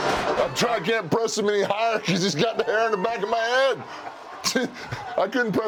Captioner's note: laugh